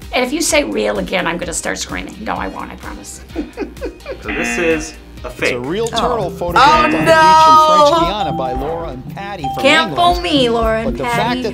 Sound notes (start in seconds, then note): 3.1 laughs; 4.3 buzzer rings; 6.6 bell rings